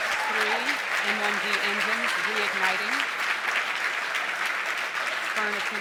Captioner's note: cheers and applause